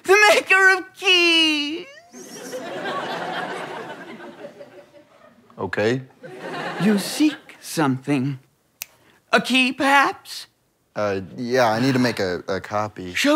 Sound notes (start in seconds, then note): 2.2 audience laughter